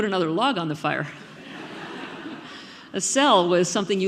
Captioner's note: audience laughing